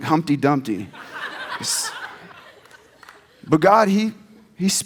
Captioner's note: audience laughs